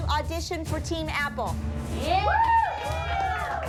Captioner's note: cheering